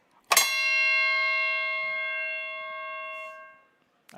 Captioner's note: bell clangs